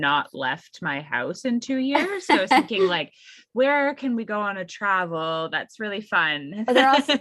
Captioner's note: laughs